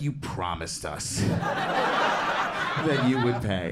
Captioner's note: crowd laughs